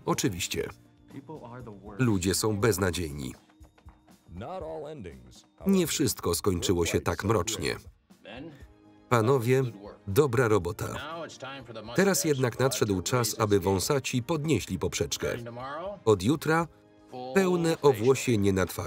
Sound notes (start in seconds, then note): 4.5 voiceover